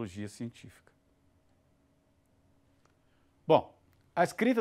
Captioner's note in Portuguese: silêncio